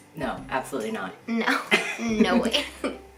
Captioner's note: chuckles